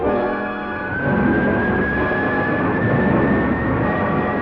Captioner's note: comets screeching